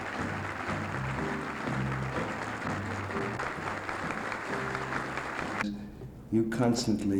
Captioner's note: applause, music